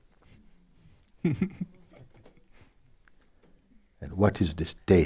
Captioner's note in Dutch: vraagsteller lacht